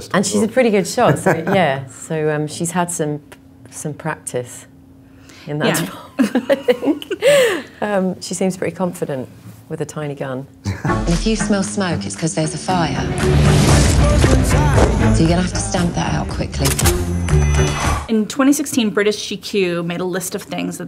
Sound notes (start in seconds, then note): 1.0 laughing; 5.7 laughs; 10.7 laughing; 12.2 dramatic music; 16.7 gun loading; 17.5 blowing